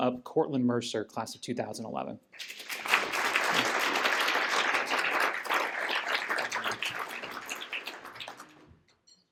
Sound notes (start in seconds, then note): 2.3 applause